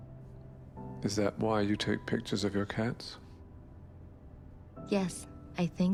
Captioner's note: voiceover